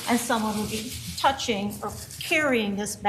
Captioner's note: nats from court